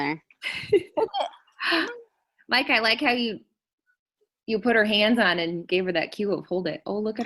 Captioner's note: chuckles